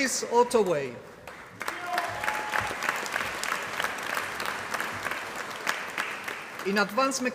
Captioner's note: applause